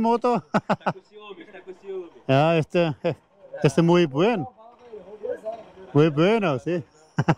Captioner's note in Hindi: पुर्तगाली में बोलते हुए